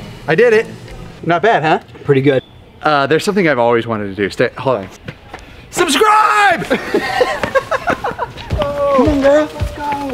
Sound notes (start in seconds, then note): 6.5 group laughing